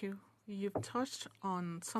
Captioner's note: speaking French